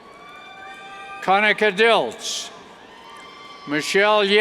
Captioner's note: cheers